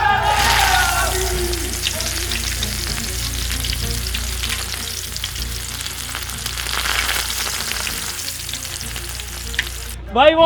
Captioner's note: frying sound